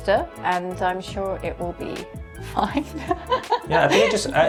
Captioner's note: laughing